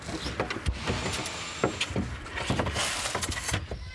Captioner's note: distant whirring of equipment